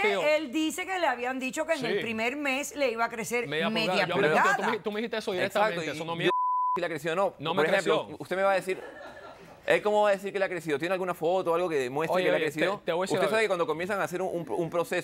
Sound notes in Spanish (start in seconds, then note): 0.0 Hablan al unísono; 6.3 Bip